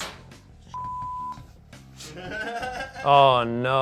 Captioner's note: beep; laughs